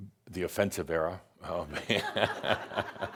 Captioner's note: laughter